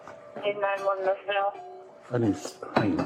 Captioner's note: radio chatter